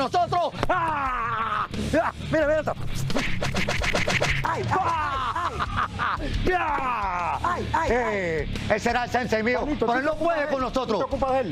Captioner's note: shout